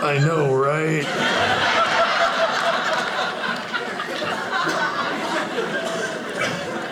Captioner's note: audience laughing